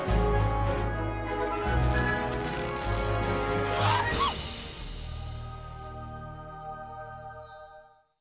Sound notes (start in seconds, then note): 3.8 sneezing